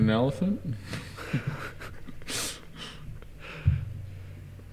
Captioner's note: giggles